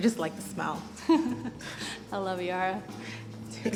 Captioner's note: laughs